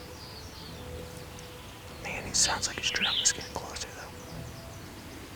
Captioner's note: whispering